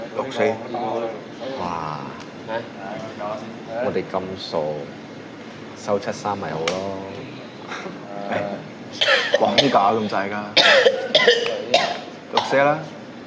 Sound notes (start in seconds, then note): 10.5 MONK coughs